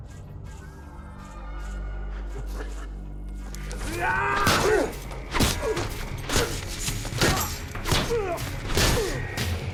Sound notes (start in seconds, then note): 2.2 chuckles; 3.7 both yelling and grunting